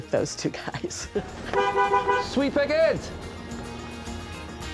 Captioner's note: honks horn